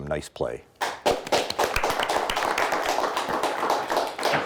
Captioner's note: audience applauds